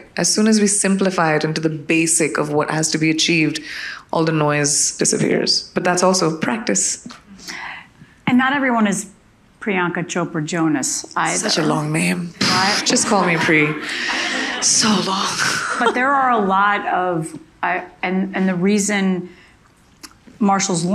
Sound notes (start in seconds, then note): 12.4 audience laughing